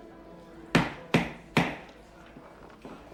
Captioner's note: gavel banging